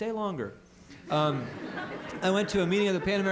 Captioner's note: laughter